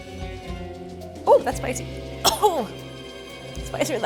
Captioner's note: coughs